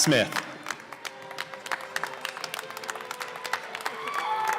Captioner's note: applause